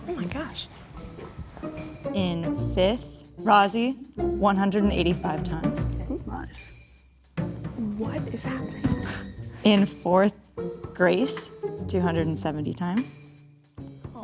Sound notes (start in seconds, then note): none